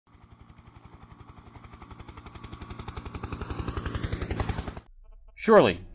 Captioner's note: helicopter in flight